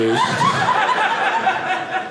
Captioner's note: audience laughing